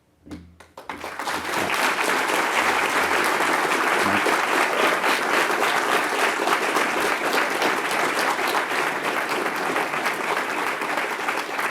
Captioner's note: applause